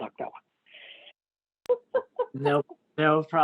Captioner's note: laughter